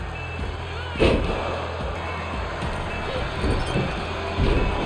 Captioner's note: floor thudding; crowd cheering